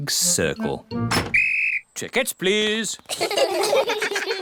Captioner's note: blows whistle; all laugh